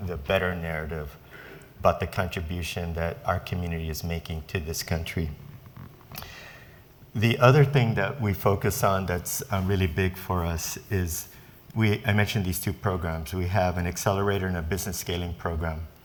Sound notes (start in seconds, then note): none